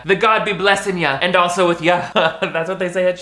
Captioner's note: laughs